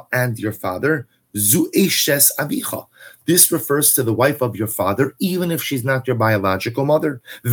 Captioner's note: Hebrew